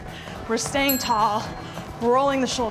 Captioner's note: bell dinging